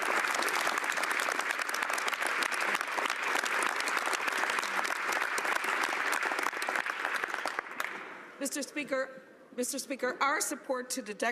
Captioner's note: applause